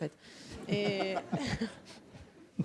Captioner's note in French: rires